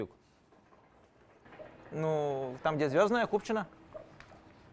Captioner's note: laugh